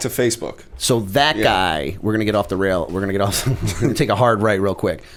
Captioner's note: chuckle